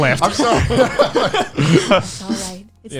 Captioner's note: laughs